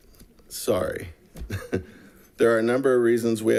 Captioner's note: chuckles